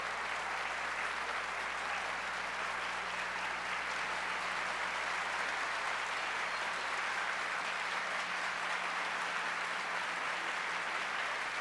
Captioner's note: applause